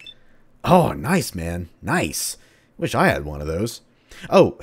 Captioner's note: intercom